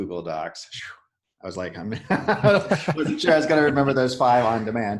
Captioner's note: laughing